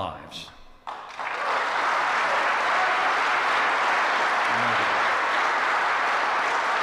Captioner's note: applause